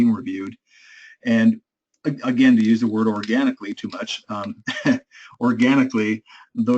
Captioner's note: laugh